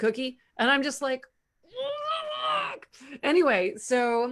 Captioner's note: groans